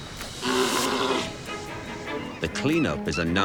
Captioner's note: dramatic music; sea lion grunting